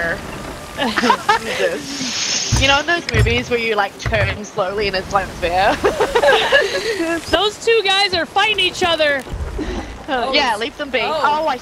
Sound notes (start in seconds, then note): 0.8 laugh; 5.8 laugh